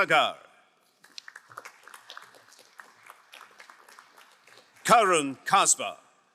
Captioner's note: crowd applauding